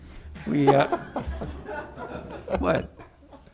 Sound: board members laughing

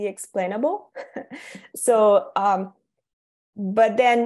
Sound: chuckles

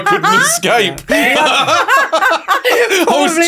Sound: everyone laughs

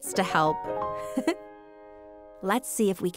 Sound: laughing

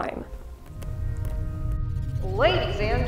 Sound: distant rumbling

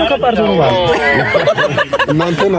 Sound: laughter

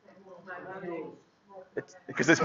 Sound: chattering

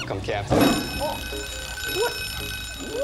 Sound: alarm ringing

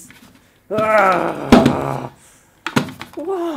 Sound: agrrr

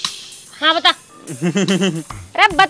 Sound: lauhgs

